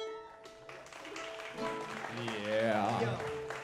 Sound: audience applauds

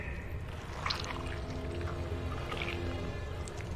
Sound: squishing

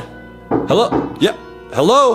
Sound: knocking

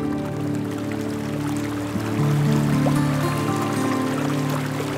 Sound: sound of flowing water

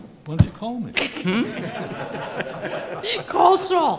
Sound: laughter

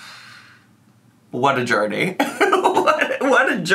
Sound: laughs

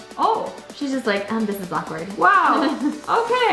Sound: laughs

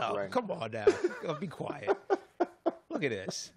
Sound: laughs

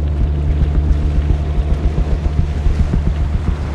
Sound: water splashing

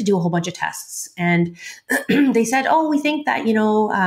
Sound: clears throat

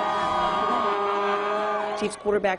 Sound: crowd cheering

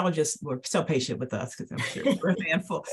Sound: laughs

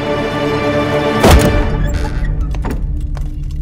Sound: door opens

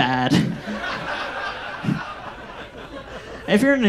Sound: audience laughs

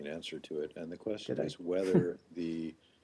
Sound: laughter

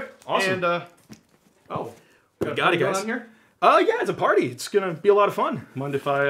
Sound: none

